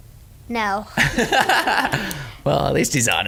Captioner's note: laughing